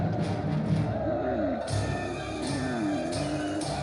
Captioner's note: camel groans